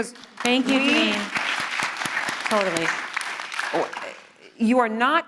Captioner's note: audience applauding